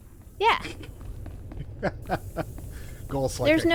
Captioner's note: laughs